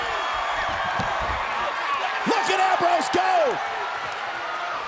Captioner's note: applause